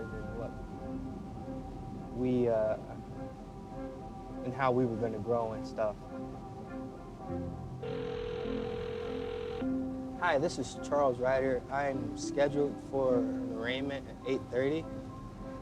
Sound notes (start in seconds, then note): 7.8 line ringing